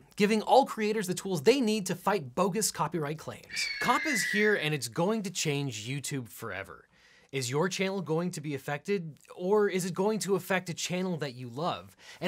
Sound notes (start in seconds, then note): 3.5 eagle screaming